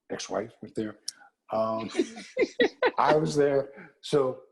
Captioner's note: laugh